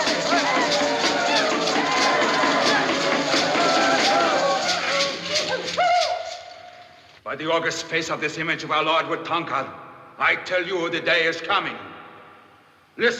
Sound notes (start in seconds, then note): 0.0 ALL CHANTlNG; 0.8 man hoots